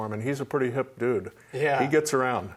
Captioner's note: laughs